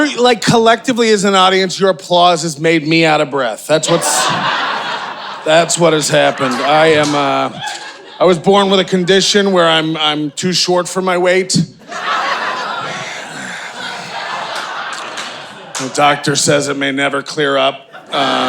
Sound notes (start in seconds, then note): 3.8 audience cheering; 11.7 audience laughing